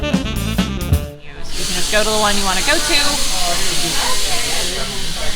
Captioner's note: insane hissing sound